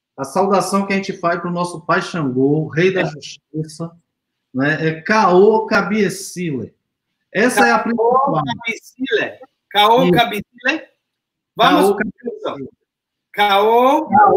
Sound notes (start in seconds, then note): 0.1 speaks portuguese